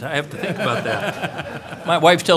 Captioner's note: laughter